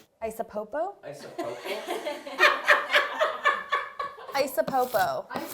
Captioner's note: all laughing